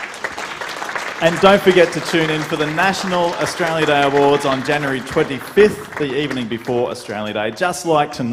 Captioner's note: applause